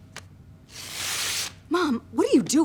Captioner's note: ripping